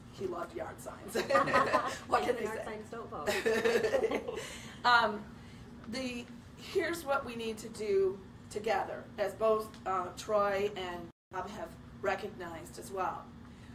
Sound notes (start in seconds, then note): 1.1 laughter